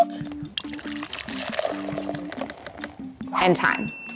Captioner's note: milk pours